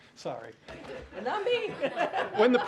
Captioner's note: laughter; laughs